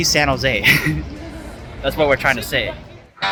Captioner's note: chuckling